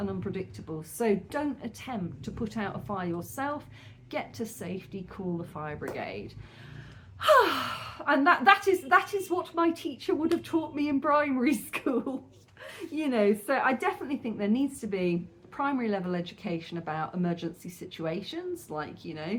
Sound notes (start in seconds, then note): 6.4 deep breath; 6.5 sigh